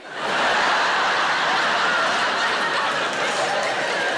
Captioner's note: audience laughing